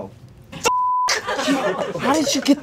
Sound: beep

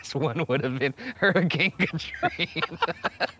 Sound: laughing; laughs

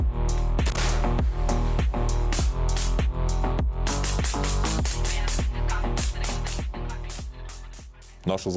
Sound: dynamic music plays; sound of a grenade launcher; sound of an assault rifle

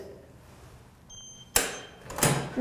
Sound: beeping

